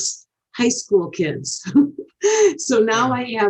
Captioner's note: chuckles